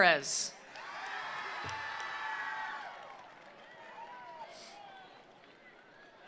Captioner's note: attendees cheering; attendees applauding